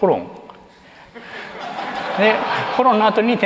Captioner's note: laughter